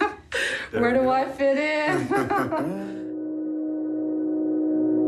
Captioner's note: laughs; chuckles